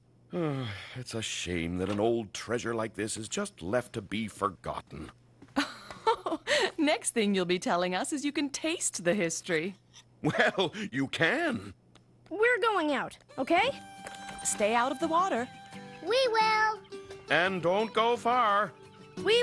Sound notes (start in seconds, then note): 5.6 laughing